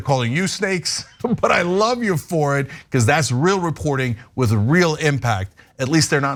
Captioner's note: laugh